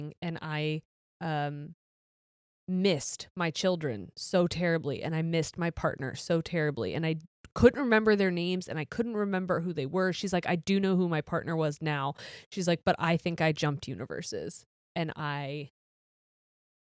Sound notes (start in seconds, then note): none